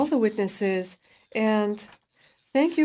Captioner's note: speaking in French